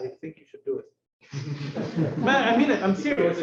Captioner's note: laughter